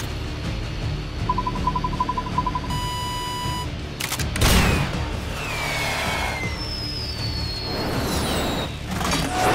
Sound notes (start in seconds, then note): 1.3 radar chiming; 4.3 Batgun firing; 6.2 rocket whistling